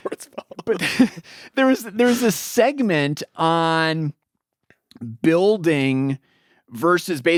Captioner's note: laughs